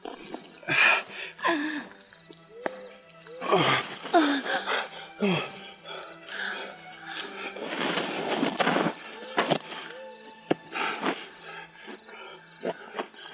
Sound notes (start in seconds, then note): 1.0 breathing, struggling